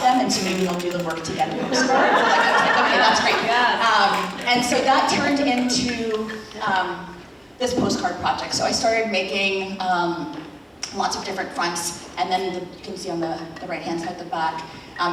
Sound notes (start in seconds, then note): 1.5 audience laughs